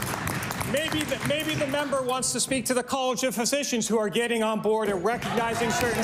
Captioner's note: applause